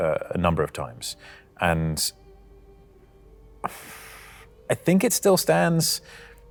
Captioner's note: exhales